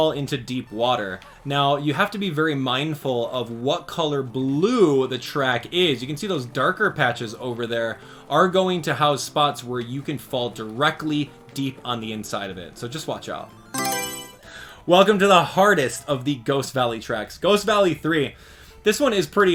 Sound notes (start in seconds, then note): 13.6 Mario Selection Sound